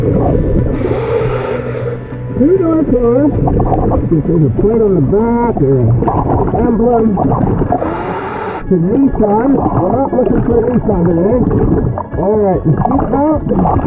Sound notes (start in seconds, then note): 0.1 oxygen bubbling in water; 0.1 oxygen tank hissing; 7.1 oxygen bubbling in water; 7.1 oxygen tank hissing